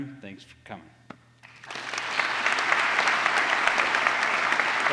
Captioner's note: applause